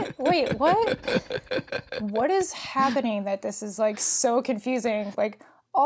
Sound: laughs

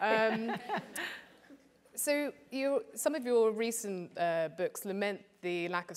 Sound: laugh

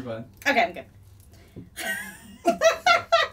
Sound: laughs

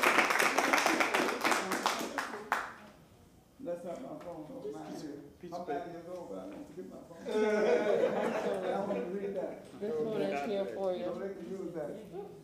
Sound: applause

